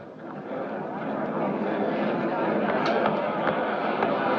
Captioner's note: overlapping chatter in background